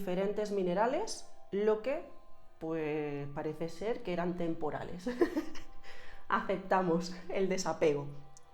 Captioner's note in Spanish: risas